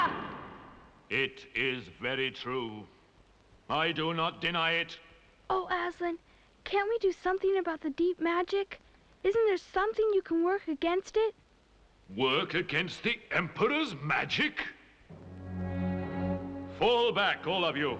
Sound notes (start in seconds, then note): none